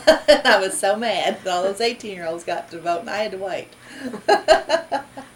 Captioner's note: laughs